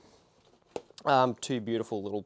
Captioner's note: shoes tap